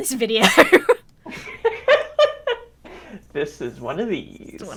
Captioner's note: both laugh